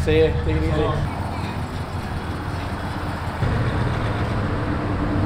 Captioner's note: engine hums